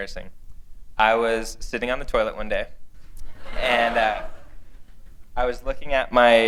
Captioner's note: laughter